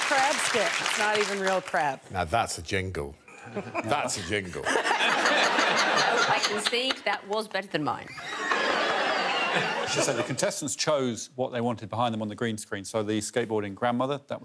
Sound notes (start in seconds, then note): 4.6 all laughing; 8.2 all laughing